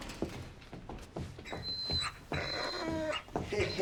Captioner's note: dog whimpering